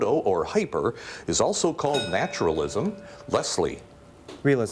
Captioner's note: bell rings